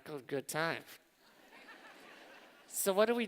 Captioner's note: laughter